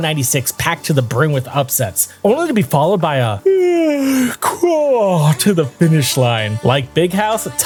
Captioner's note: yawn